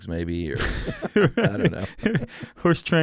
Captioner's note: both laugh